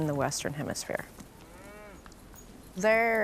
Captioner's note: gentle mooing